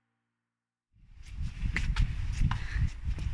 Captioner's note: wind